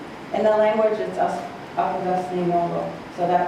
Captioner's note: speaking foreign language